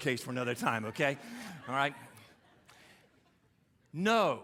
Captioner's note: audience laughing